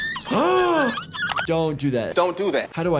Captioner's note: cub screaming; gasps